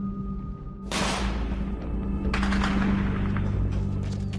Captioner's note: rapid gunfire